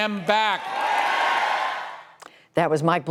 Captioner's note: cheering and applause